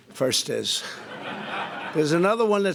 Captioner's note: laughter